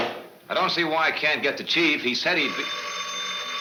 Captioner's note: phone ringing